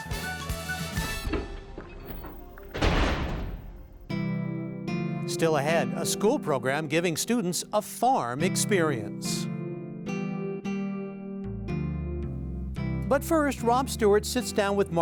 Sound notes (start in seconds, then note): 3.7 vault Closing